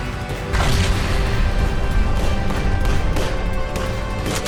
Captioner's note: explosion bangs